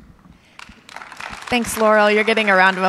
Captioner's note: audience clapping